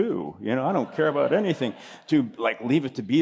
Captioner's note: laughter